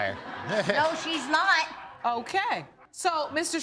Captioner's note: laughs